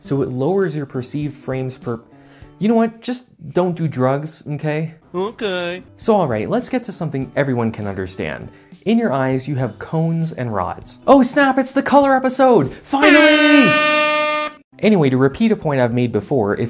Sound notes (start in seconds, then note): 12.9 super loud air horn!